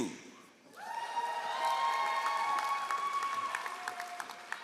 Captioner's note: all applauding